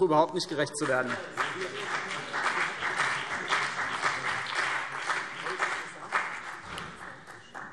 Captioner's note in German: Beifall CDU und BÜNDNIS 90/DIE GRÜNEN